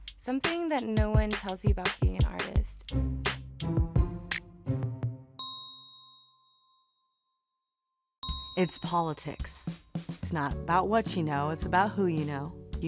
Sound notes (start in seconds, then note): 2.8 cool jazz music; 5.4 bell dings